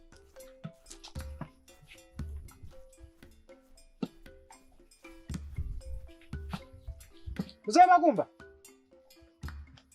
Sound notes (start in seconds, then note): 2.1 footsteps approaching